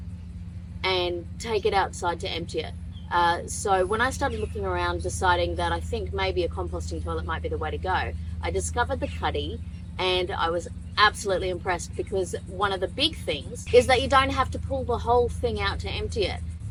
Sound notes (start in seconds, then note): none